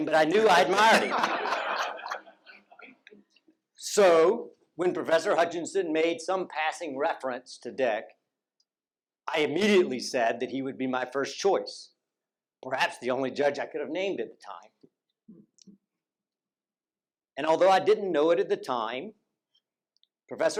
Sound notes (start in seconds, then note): 2.1 laughter